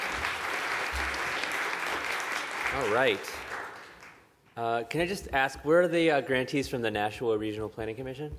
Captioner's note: applause